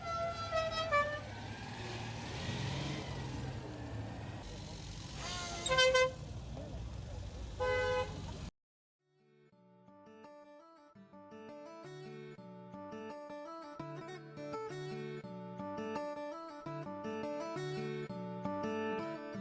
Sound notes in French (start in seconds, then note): 0.0 Klaxon festif; 6.1 Klaxon trompette